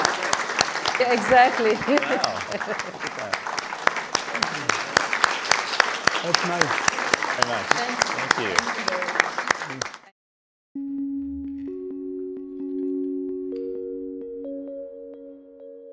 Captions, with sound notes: - Thank you very much. Exactly. - Oh wow. (audience applauding) Thank you. (gentle music)